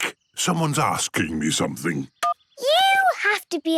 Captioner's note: phone beeps